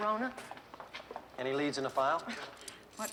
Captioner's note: laughs